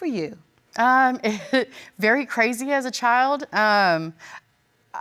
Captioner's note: chuckling